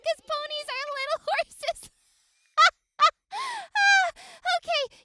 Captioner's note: laughing